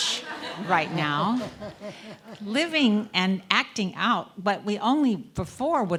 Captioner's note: laugh